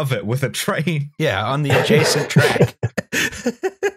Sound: laughter

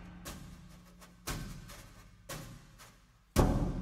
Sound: none

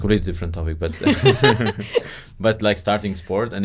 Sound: laughing loudly

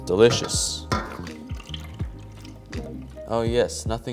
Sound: eggs splashing

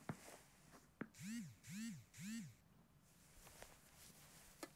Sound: phone vibrates

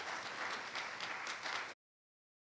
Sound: audience applauds

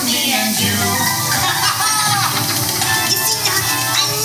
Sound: Figment and doctor laughing

